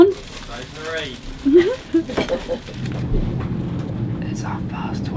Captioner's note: chuckles